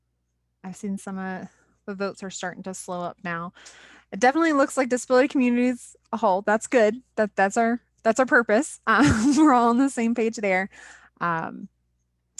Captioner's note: chuckling